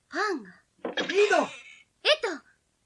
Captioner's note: SFX: door slams open